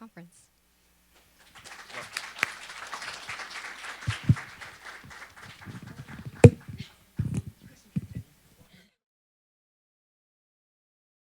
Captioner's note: applause